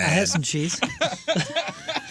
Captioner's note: laughing